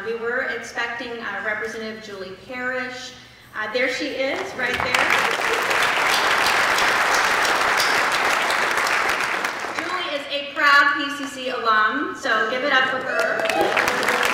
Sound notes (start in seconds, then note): 4.6 applause; 13.1 applause